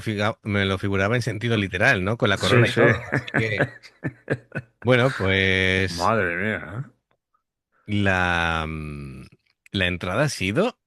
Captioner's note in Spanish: risas